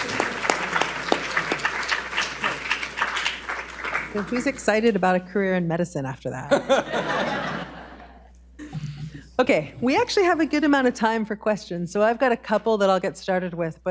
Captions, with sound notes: - So who's excited about a career in medicine after that? [audience laughs] Okay, we actually have a good amount of time for questions. So I've got a couple that I'll get started with,